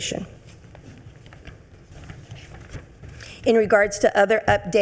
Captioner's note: papers rustling